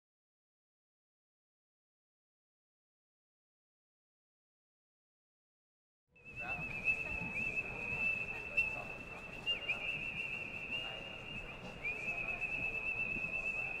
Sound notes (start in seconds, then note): 6.2 audio whistling; 6.2 crowd chattering